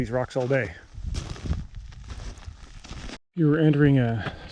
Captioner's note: footsteps thumping